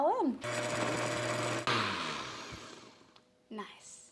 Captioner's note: blender running